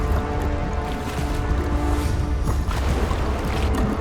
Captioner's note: eerie suspenseful music; water lightly splashing; bubbles gurgling